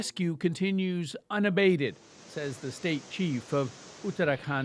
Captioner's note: speaking alternate language